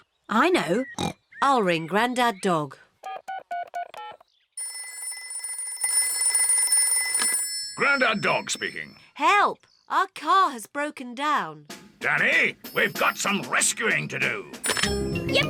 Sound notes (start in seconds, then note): 0.8 snorts; 3.0 buttons beeping; 3.0 phone rings